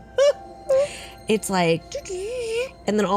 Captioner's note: computer noise